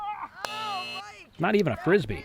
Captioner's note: buzzer